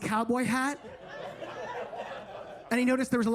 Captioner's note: attendees laughing